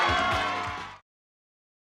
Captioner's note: applause